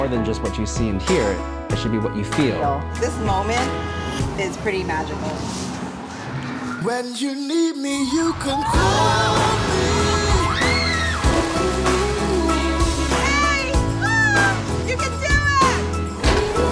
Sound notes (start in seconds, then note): 9.7 kids screaming